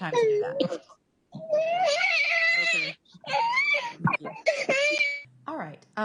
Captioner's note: crying